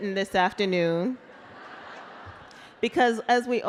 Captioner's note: laughter